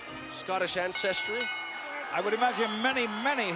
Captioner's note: bell sings